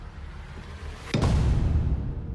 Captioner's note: thump